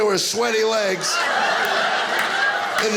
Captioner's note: audience laughing